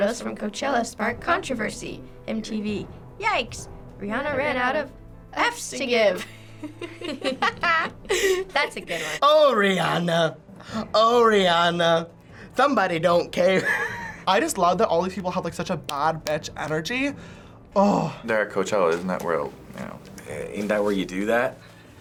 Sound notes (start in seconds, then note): 8.0 chuckle; 13.6 chuckles